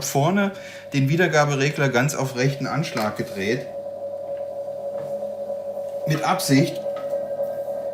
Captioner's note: feedback